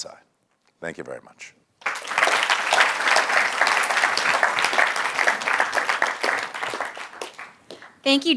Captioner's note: applause